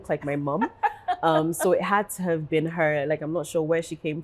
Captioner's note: laughs